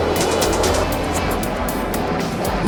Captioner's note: rhythmic clicking; jet engines